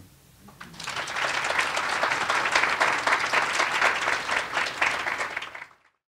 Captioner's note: applause